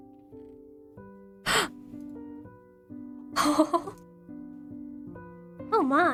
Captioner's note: ROSE gasps, laughs